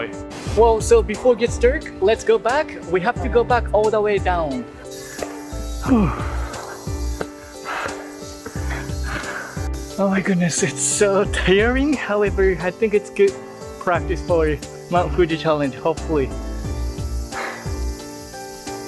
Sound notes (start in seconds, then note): 8.4 heavy breathing